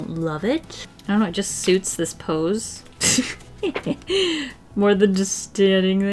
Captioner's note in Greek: γέλια